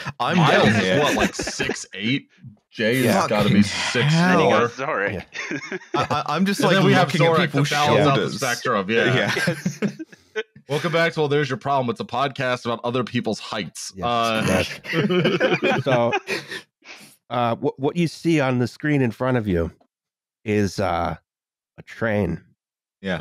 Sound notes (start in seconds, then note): 8.8 laughs; 14.6 laughter; 14.6 snorts